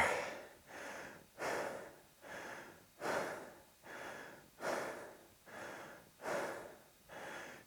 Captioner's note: breathing heavily